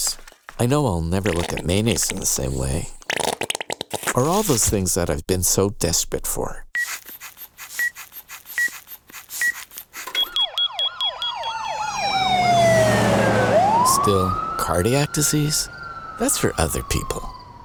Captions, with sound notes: I know I'll never look at mayonnaise in the same way. Or all those things I've been so desperate for. (beeping) (siren wailing) Still, cardiac disease? That's for other people.